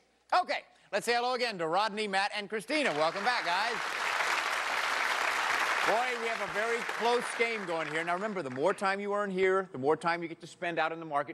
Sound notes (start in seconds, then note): 2.8 applause